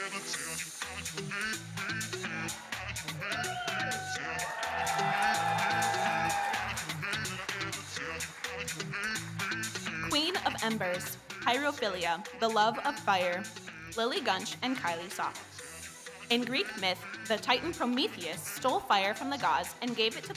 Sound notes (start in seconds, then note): 5.9 audience cheering